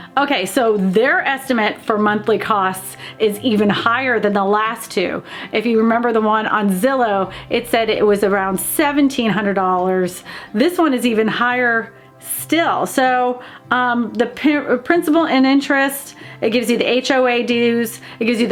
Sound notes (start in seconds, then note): none